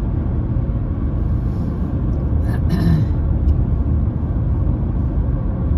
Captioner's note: clears throat